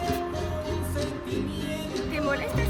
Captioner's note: in spanish